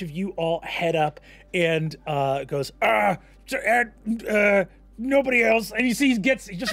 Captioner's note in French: bégayant